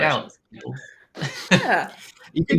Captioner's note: chuckles